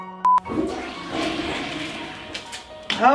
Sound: toilet flushes

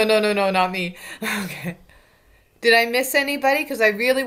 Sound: laughs

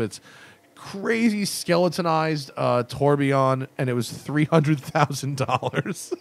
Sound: laughter

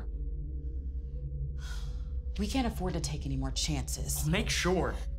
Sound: sighs

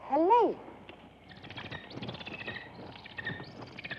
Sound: bird chirping

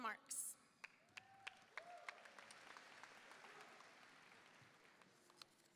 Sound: audience applauding

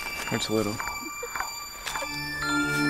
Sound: Christy giggles

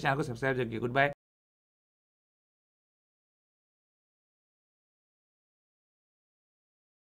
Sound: no audio

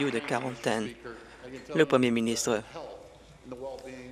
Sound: applause

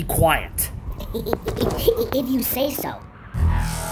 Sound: nervous laughs

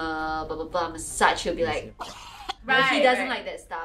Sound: puking sound

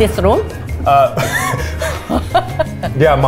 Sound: laughs

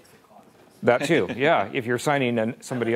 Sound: laughing

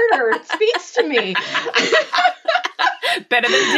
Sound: laughing

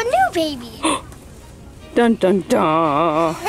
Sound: gasp

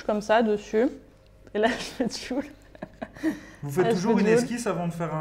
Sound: laughs

